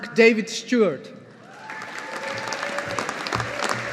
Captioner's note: audience applauding